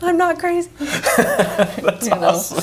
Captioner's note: laughs